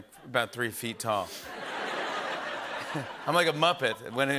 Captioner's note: laughter